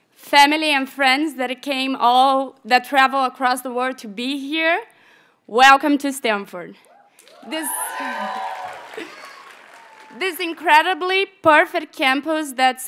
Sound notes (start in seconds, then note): 7.2 audience cheers and applauds